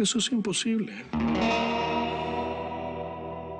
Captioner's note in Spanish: none